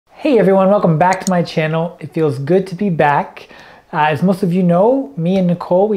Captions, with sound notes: - Hey, everyone. Welcome back to my channel. (mouse clicking) It feels good to be back. As most of you know, me and Nicole,